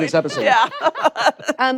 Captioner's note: laughter